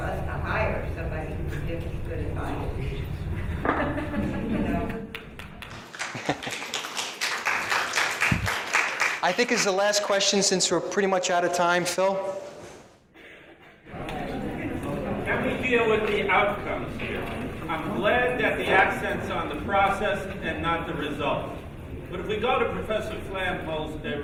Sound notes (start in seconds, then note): 4.9 applauding